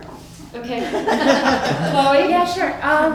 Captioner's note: laughter